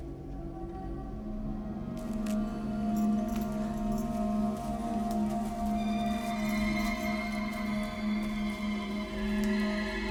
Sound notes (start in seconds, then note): 1.4 eerie music; 3.1 chains clinking; 3.1 footsteps plodding